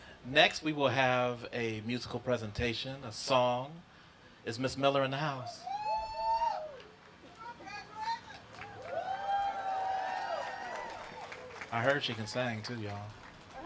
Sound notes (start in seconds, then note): 5.4 wooting